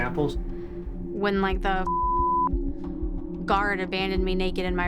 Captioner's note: beep